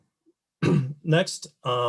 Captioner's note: clears throat